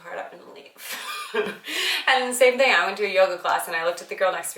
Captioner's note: laughing